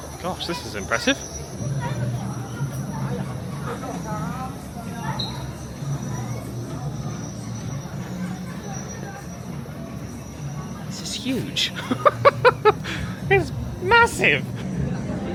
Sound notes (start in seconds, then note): 4.4 birds tweeting; 11.5 laughs